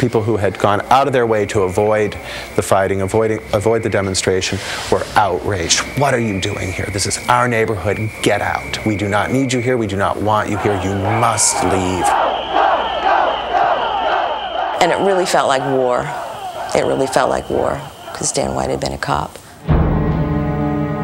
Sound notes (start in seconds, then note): 9.1 whistles blaring; 17.1 soft somber music